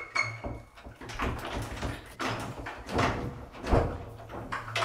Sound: lock jiggling

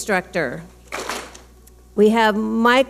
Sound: clap smack

